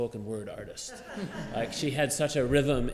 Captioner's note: laughter